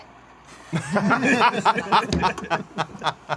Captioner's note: laughter